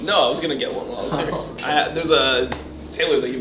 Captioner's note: laughing